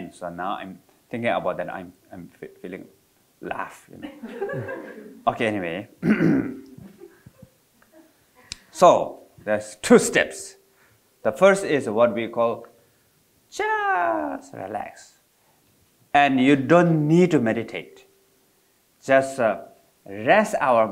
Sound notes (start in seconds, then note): 4.0 audience laughing